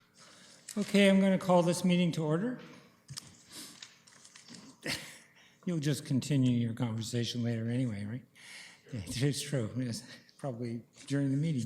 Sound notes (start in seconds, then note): 4.8 chuckling